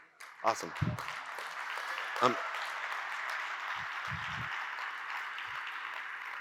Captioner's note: audience cheers and applauds